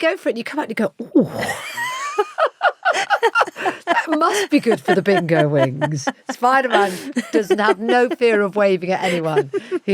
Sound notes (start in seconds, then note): 1.9 laughs